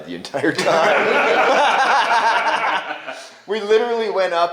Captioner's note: laughing